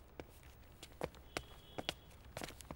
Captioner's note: Footsteps